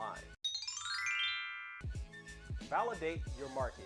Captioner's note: magical chiming